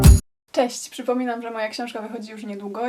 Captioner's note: speaking Polish